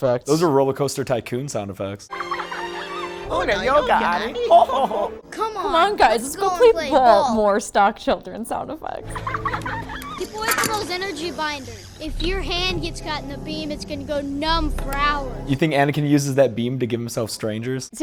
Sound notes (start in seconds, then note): 2.1 stock children laughter. again; 9.4 stock children sound effect number three